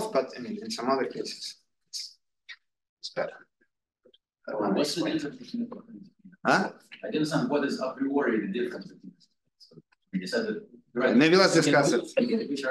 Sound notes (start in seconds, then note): 5.1 audio distorting